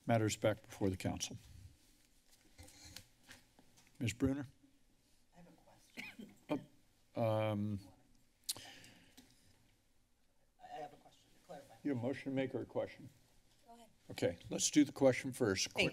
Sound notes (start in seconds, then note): 5.9 coughing; 8.5 clicks tongue